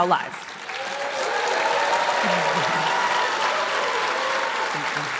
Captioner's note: crowd applauding